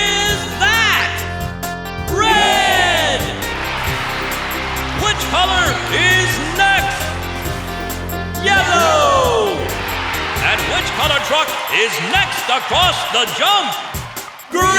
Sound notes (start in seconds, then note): 2.1 cheering